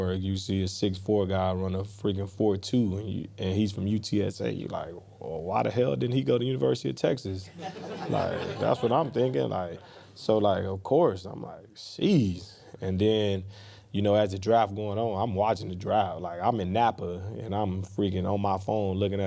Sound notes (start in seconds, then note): 7.6 press staff laughing